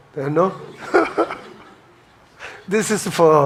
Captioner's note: chuckles